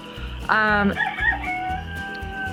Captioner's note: rooster crows